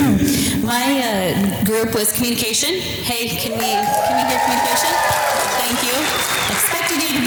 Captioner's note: audience applause